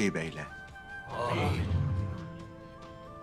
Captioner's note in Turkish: Hep bir ağızdan